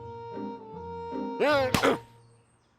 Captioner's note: grunts